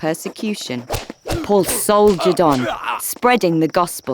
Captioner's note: whip cracking